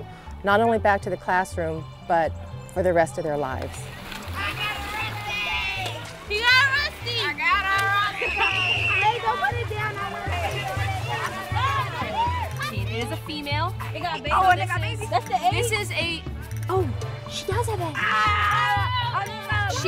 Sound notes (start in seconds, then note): 10.1 students chattering excitedly; 17.8 children shouting excitedly